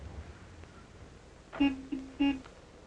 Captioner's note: car horn honks